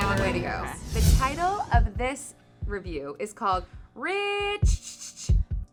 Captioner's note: beeping sound